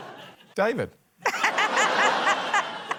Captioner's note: laughter